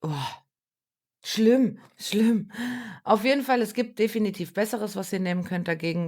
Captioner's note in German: japst